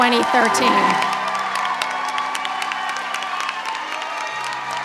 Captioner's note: applause and cheering